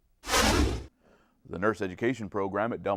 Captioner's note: deep swooshing